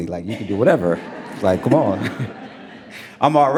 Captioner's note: audience laughs